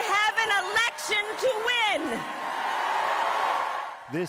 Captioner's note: cheers and Applause